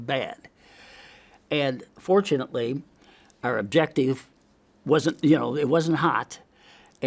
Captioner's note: inhales